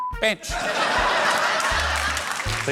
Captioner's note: laughter